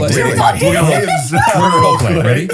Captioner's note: laughing